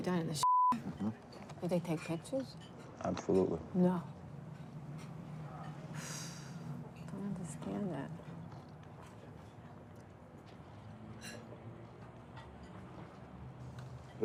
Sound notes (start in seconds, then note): 6.0 sighs